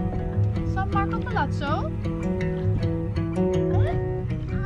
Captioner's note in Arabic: يتحدث الهولندية